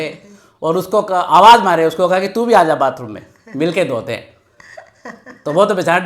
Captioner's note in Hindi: हंसी